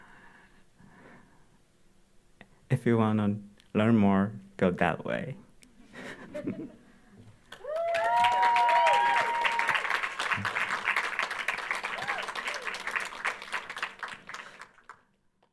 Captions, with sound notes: If you wanna learn more, go that way. (audience laughing) (audience applauding)